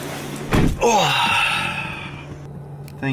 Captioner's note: sigh